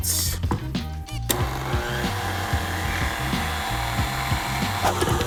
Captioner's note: mixer whirs